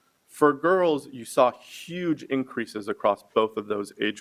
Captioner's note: none